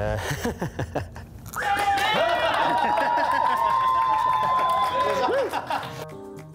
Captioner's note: small laugh; screams and applause